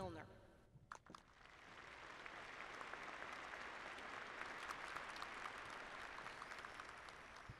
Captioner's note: applause